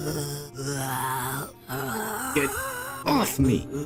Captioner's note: some more zombie noises